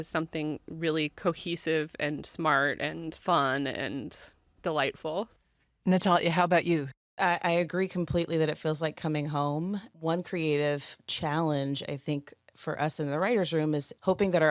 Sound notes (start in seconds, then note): none